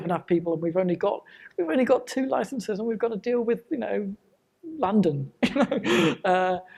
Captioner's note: laughs